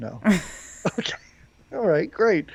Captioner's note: laughs